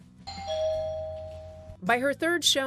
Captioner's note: doorbell rings